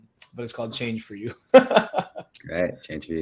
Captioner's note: laughs